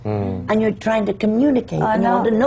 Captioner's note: laughs